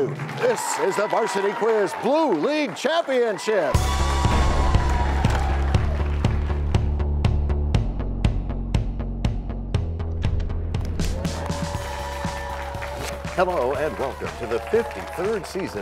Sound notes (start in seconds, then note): 4.2 crashing sound